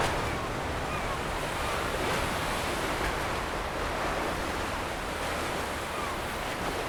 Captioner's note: seagulls call; water rushes